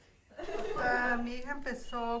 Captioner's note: laughing